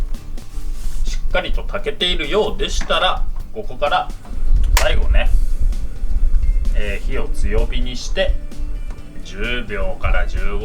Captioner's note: flame